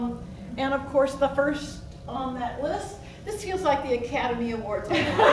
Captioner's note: laughs